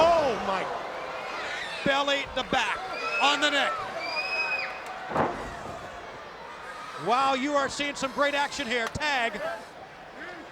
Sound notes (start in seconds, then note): 5.1 canvas banging